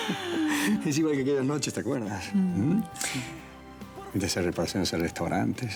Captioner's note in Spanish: Risas